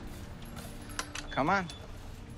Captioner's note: keys jangle